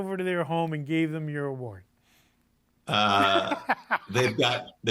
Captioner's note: laughs